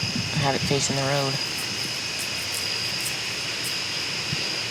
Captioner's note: finger scratching